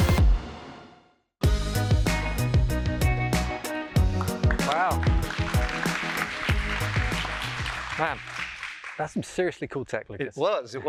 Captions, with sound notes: Wow. [APPLAUSE] Man, that's some seriously cool tech.